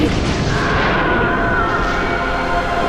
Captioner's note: screams over radio